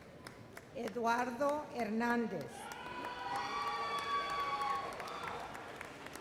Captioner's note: loud cheers